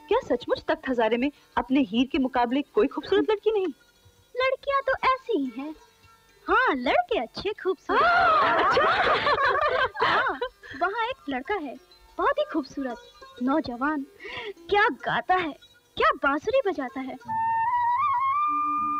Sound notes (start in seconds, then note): 7.9 laughs; 17.2 flute playing